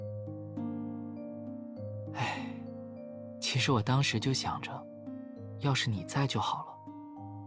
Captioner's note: sigh